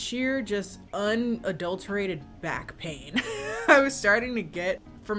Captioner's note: laughs